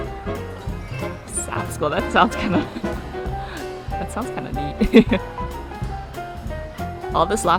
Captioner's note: laughs